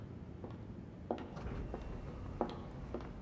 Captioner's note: heels click